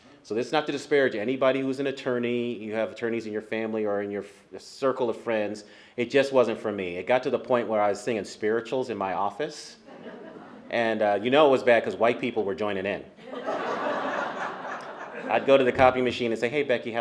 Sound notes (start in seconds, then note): 13.2 laughter